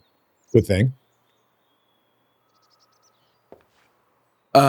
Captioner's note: birds chirping